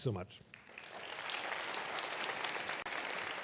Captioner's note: applause